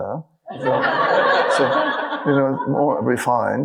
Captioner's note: audience laughing